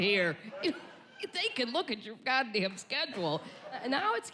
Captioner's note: chuckles